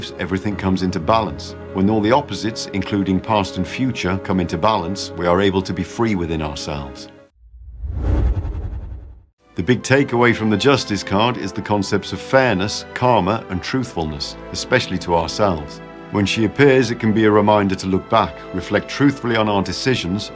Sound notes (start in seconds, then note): 7.4 whoosh sound